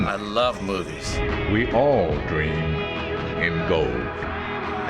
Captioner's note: voice-over; audience applauds